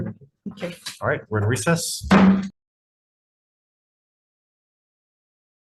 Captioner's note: gavel bangs